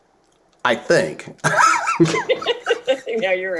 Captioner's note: laughter